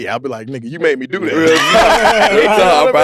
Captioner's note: group laughs